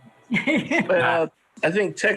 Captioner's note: laughs